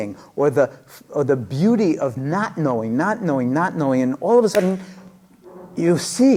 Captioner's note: claps